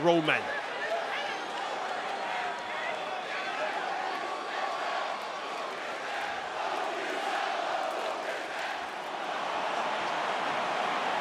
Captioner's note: applause